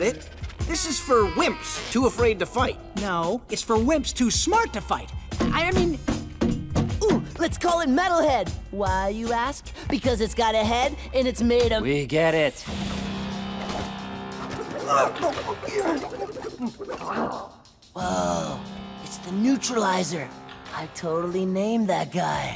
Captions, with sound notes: This is for wimps too afraid to fight. No, it's for wimps too smart to fight, I mean- [metal thumping] Ooh! Let's call him Metalhead. Why, you ask? Because it's got a head and it's made of- We get it. [grunting] Whoa. It's the Neutralizer. I totally named that guy.